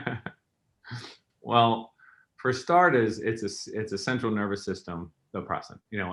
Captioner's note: chuckles